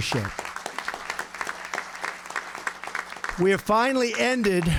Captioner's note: applause